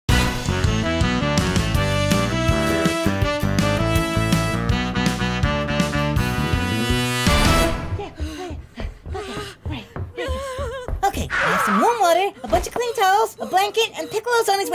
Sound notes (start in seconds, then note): 0.1 upbeat intro music; 8.1 Chi-Chi panting